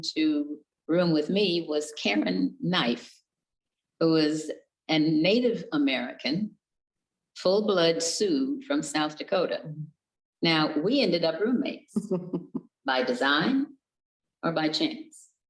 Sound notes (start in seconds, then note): 12.0 chuckles